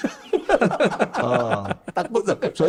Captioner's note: laugh